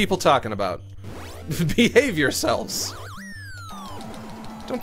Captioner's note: laughs